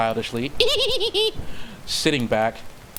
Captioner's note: clown laugh part two